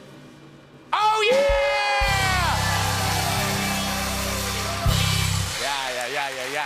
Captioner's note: cheers and applause